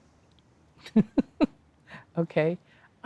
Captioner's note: laughs